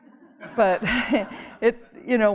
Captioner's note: audience laughing